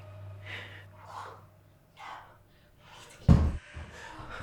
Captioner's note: all gasping